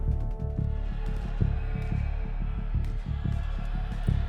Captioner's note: mob yelling